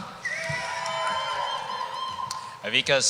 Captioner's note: cheering